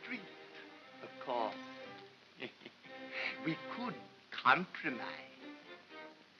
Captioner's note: chuckles